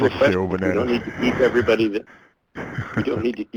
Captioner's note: voiceover